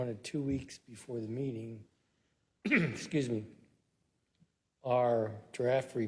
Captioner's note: cough